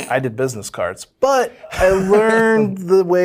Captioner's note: laughs